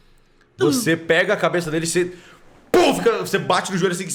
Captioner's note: pow